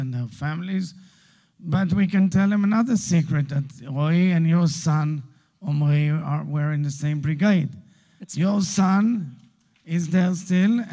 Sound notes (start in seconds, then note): 5.7 Hebrew